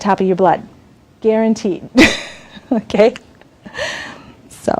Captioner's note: laughs